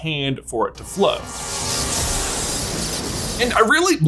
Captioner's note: lightening crackling